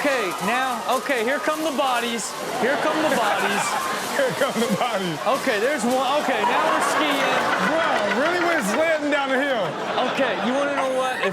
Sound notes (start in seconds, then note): 3.8 all laughing; 4.9 laughing